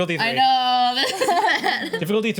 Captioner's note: group laughs